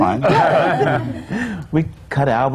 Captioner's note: laughter